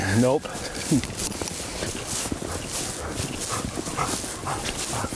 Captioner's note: dog panting